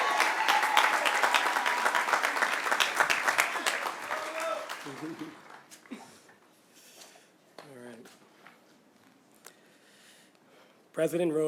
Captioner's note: cheers and applause